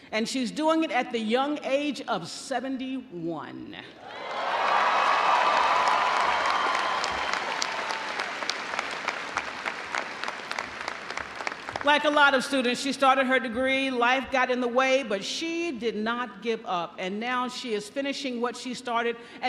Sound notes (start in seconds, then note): 4.0 audience cheering; 4.0 audience applauding